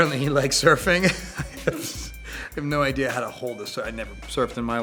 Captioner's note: laughs